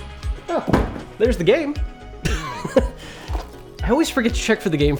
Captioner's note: laughs